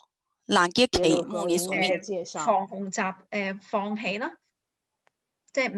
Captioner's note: speaking foreign language